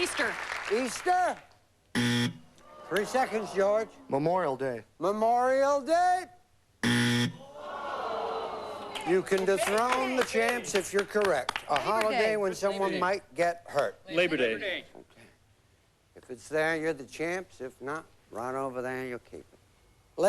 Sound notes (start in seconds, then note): 2.0 buzz; 6.8 buzz; 7.4 crowd groans